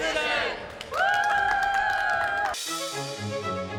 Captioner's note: applause